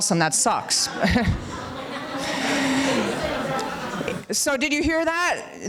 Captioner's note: laughter and chatter